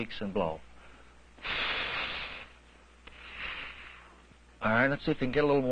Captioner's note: blowing